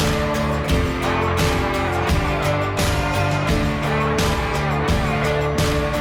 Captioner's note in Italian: Applauso